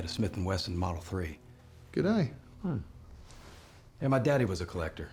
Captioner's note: scottish accent